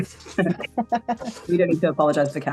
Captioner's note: group chuckles